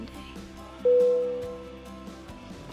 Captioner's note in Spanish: campanas